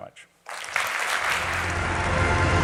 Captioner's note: applause